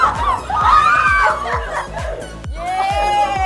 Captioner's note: dolphin screams